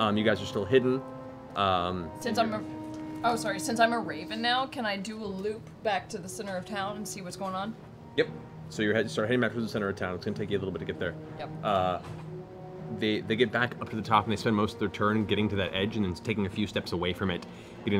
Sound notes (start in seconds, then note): none